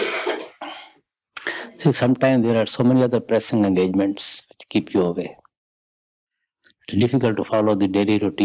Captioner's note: laughter